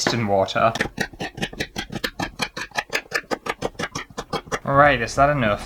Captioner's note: fast Chopping Sounds